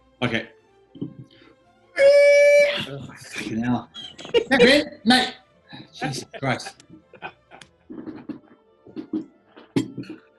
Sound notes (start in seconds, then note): 2.0 screech of "feedback"; 5.8 giggling; 5.8 laughing